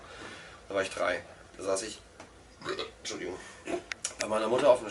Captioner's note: burp